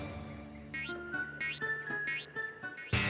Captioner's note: boing! boing! boing! boing!